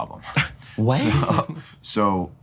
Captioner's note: scoffs